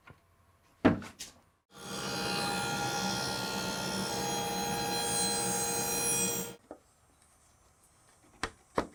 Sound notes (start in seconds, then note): 1.7 saw buzzing